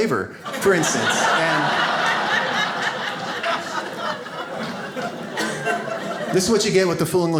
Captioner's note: audience laughs